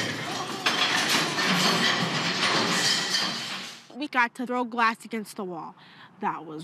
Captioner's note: loud clatter